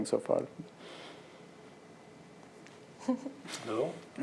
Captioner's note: laughter